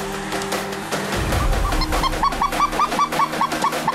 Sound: goose call

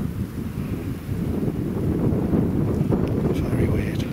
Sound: wind blows

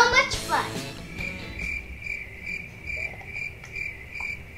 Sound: crickets chirp

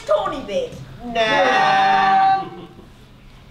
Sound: disagreeing noises

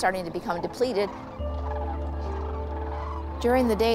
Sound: crane song

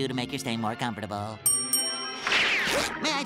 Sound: dinging

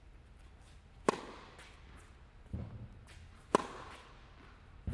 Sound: racquet hitting ball

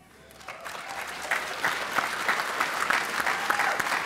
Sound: applause

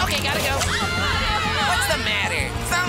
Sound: shouting

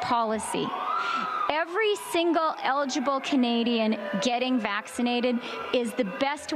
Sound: siren

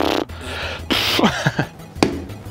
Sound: laughs

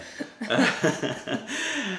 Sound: laughter

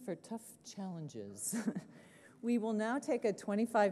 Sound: laughs

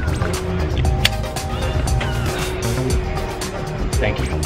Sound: seatbelt clicking

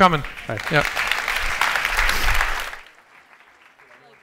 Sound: applause

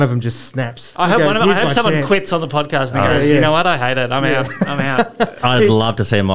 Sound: laughter

